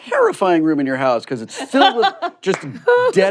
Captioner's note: laughs